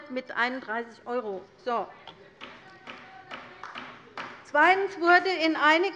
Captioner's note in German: Beifall bei der LINKEN